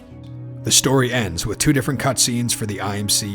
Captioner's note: voiceover